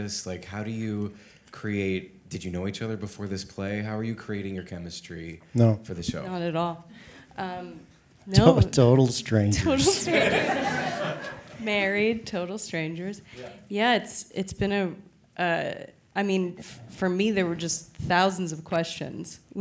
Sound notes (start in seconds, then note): 9.6 all laughing